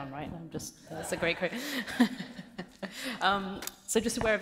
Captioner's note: laughing